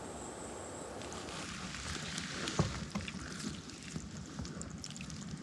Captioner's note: water trickling